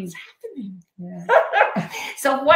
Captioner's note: laughing